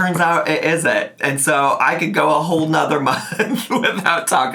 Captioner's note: laughs